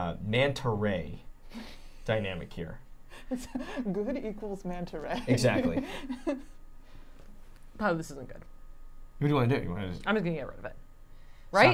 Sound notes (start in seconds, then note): 5.0 laughing